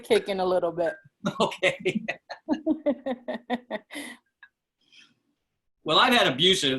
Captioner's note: laughter